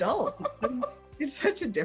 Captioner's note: laughs